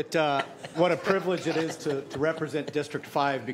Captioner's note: laughter